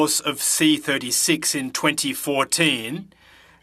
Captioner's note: speaking French